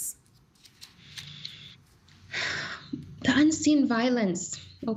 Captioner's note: sighing